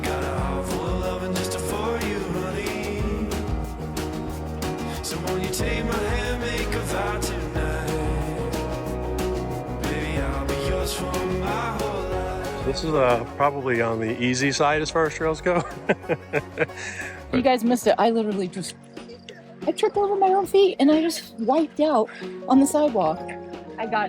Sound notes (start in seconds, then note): 15.5 laughing